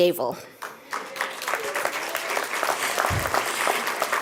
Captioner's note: clapping